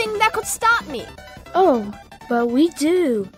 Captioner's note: none